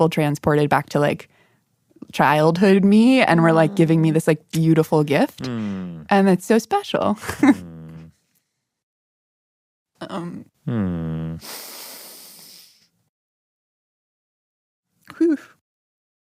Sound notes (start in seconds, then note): 7.2 laughs; 11.2 sniffles